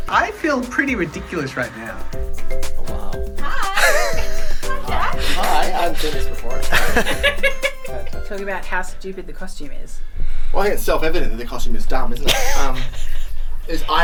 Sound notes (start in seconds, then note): 2.1 springy music; 6.5 laughs